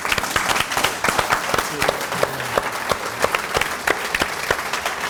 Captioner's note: audience applauding